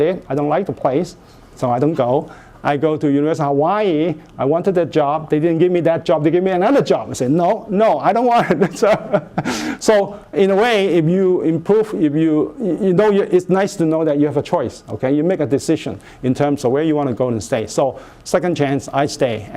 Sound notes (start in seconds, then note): 8.3 laughs